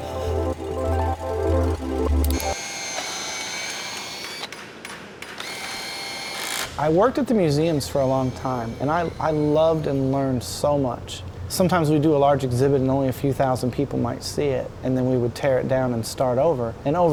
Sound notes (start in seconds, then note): 2.2 drill whirs; 4.2 hammer taps